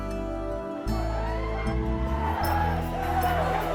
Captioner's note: all shouting